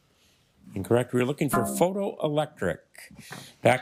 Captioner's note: failure chime